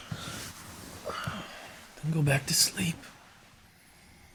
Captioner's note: sighs